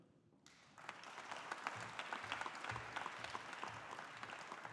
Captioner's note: audience applauding